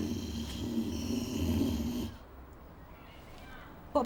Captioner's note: sean growls